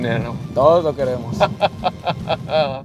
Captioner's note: laughter